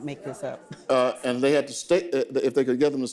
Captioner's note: audience laughing